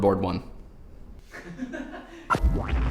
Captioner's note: man laughing offscreen